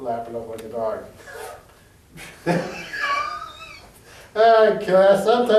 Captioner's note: laugh